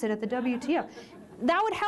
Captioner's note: laughter